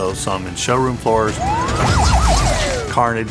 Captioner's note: siren wailing